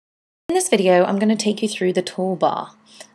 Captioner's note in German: Voiceover